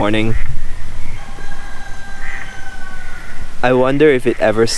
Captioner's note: crowing in the background